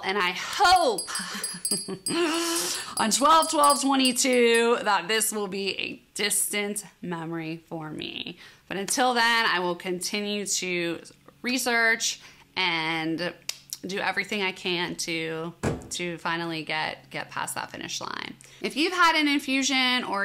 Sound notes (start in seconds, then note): 1.0 laughs